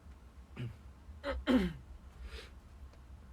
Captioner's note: clear throats